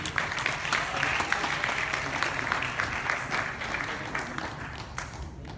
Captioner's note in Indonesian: Tepuk Tangan